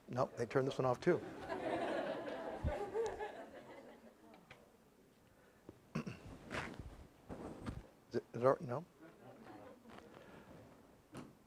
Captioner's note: laugh